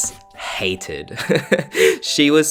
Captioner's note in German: Kichern